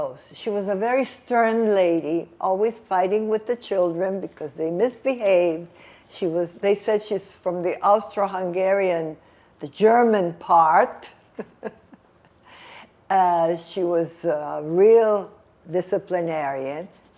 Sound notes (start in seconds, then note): 11.0 laughing